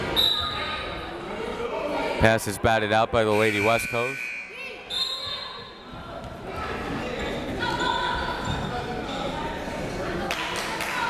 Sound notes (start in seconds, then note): 0.2 whistle tweeting; 3.3 buzzer ringing; 3.3 whistle tweeting; 7.5 crowd members shouting